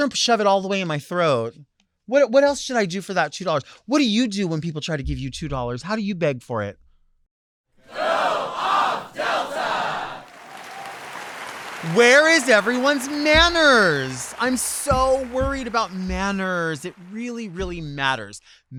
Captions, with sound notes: Make sure and shove it all the way in my throat. What else should I do for that $2? What do you do when people try to give you $2? How do you beg for it? - [Crowd] Go off, Delta! (audience applauds) - Where is everyone's manners? I'm so worried about manners. It really, really matters.